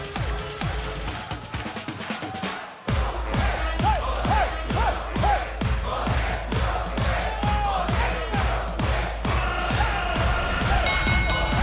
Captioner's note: crowd cheering